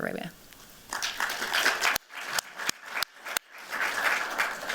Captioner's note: applause